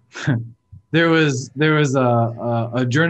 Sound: chuckles

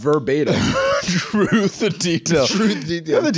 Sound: laughing

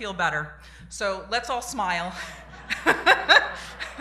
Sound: laughter

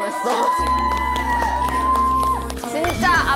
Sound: applause~!!!

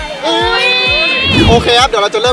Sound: mocking

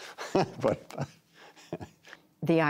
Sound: laughter

